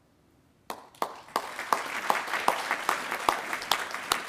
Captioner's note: attendees applauding